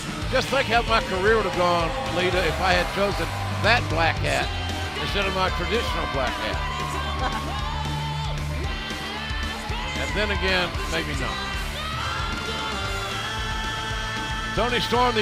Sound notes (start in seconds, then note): 7.0 laughter